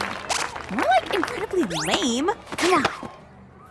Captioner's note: applause